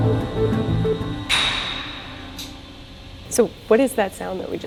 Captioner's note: loud metal popping